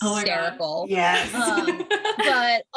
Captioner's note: laughter